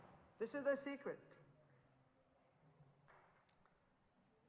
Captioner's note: in Hindi